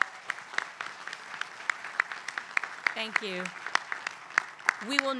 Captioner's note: applause